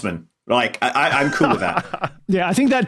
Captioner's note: laughs